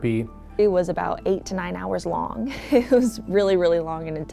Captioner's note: chuckles